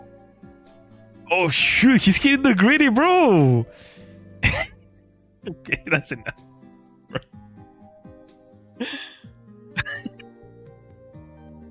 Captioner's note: laughter